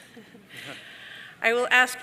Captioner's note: participants laughing